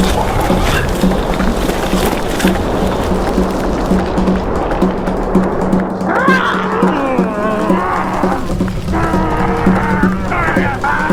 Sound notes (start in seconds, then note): 3.7 dramatic music continues; 6.0 both growling